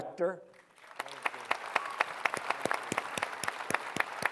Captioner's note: applause